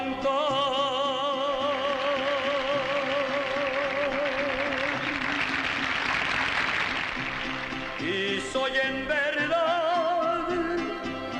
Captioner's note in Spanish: Aplausos